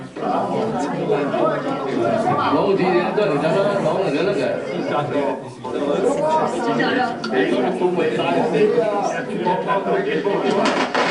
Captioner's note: Speaking Hoisan-wa